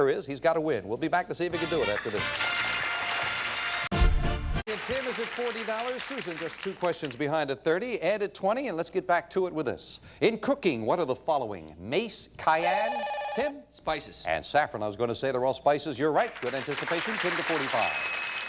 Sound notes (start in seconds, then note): 12.6 bell rings; 16.2 audience applauding